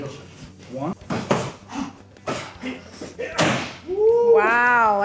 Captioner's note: heavy breathing